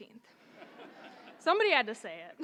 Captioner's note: audience laughing